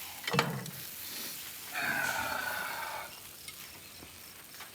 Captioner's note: sniffs, sighs